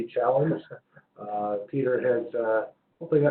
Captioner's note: laugh